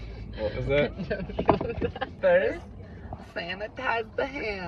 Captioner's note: laughing